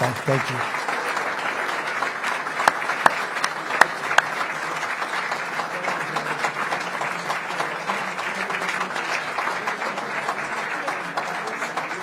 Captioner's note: applause